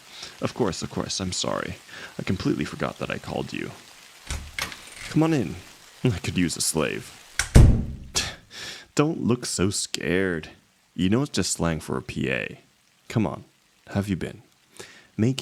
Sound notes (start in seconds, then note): 4.2 the door opens